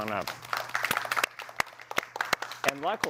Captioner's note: applause